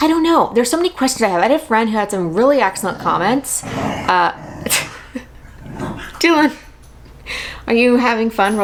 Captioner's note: happy growling noises